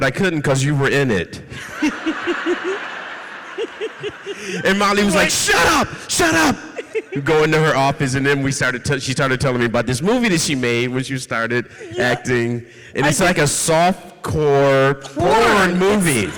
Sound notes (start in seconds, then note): 1.6 audience laughs